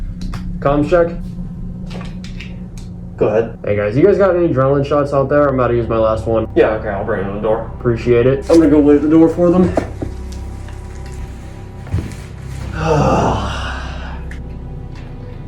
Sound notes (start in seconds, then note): 12.4 deep exhale